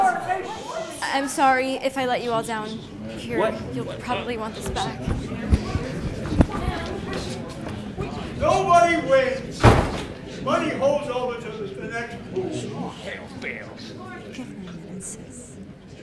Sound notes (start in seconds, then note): 5.5 the crowd continues to chatter in disbelief; 6.6 door slams close